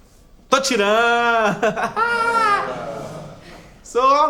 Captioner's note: laughs